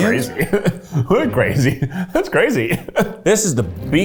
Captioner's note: laughs